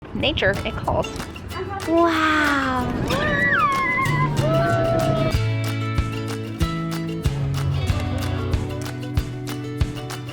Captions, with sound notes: - Nature, it calls. Wow. (family screaming) (cheerful music)